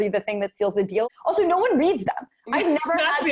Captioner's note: chuckles